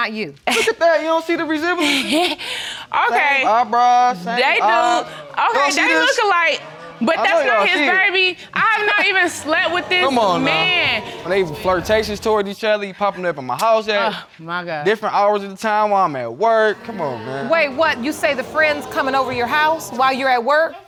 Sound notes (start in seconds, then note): 1.8 laughs